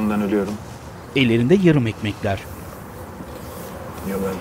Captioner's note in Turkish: Trafik sesi